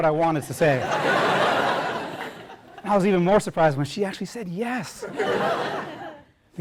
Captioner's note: laugh